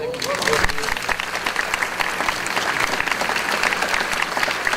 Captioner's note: audience applause